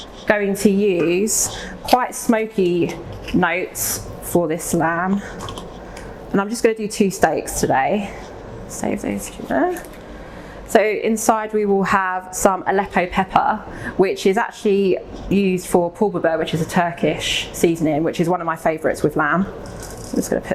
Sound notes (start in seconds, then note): 9.4 faintly speaking